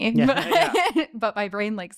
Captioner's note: laughing